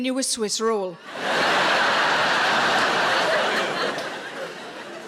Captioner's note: audience laughs